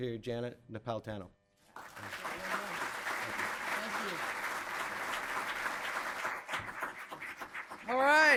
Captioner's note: applause